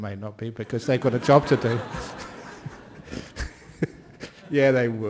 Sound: laughter

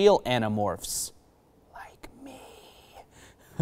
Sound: whispers

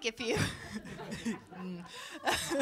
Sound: laughter

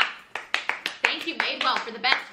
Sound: both clapping

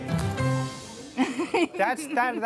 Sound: laughs

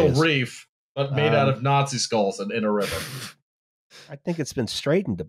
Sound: blows out a breath

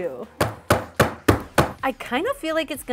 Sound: pan banging

